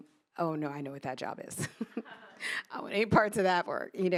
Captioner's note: laughs